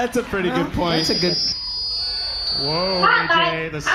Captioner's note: mic feedback